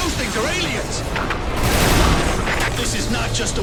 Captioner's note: object slams